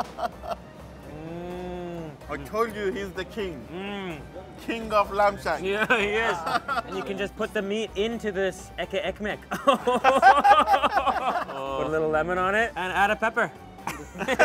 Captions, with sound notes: (delighted hum) - I told you he's the king. (delighted hum) King of lamb shank. - Yeah he is. And you can just put the meat into this etli ekmek. (laughs) Put a little lemon on it and add a pepper.